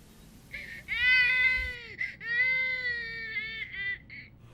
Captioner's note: baby crying